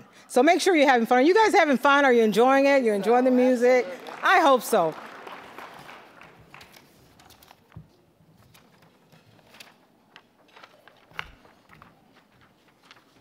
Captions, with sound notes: So, make sure you're having fun. Are you guys having fun? Are you enjoying it? You're enjoying the music? I hope so. (applause)